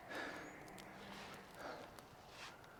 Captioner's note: none